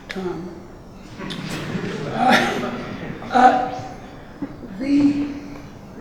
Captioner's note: audience laughing